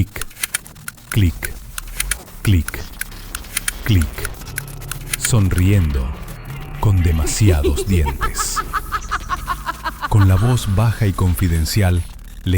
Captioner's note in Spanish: risas